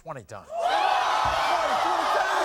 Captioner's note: audience gasping